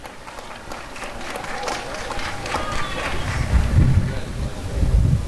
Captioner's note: applause and cheering